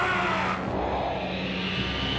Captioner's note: alien shouts